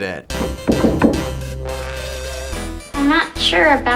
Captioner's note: upbeat music; knocking